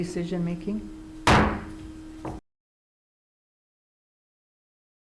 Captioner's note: gavel banging on table